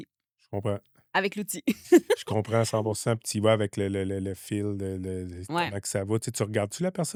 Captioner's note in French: rires